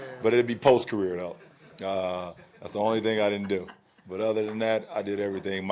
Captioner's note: laughter